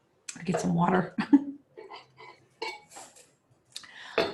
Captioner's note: chuckles